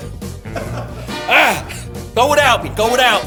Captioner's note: chuckles; crew member chuckles